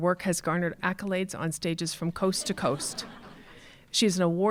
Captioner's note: audience laughing